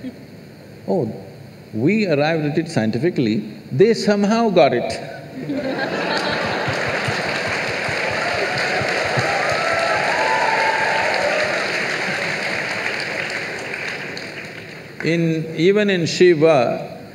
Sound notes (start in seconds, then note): 7.5 laughter/Applause/Cheers